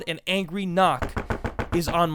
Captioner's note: seven rapid knocks